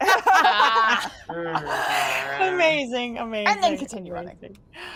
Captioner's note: laughs